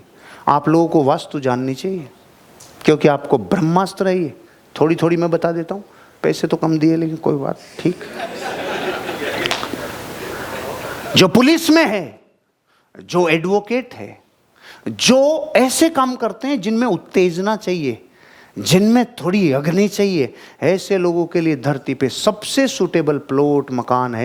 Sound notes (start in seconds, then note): 7.7 laughing